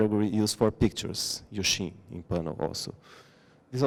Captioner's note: non-english